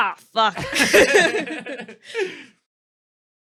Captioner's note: laughter